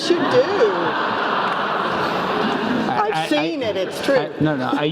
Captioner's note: laugh